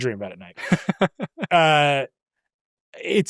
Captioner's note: laughs